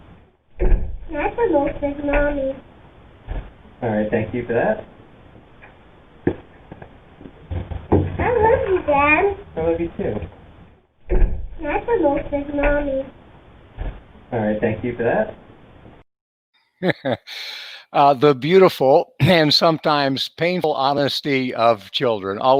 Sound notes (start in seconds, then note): 7.2 feet clumping; 16.8 laughs